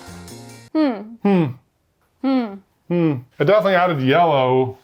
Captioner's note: both humming disapprovingly